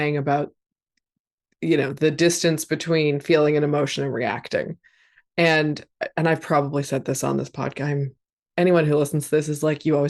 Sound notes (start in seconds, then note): none